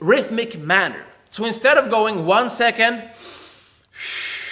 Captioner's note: air hisses